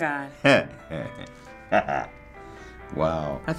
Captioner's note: bashful chuckle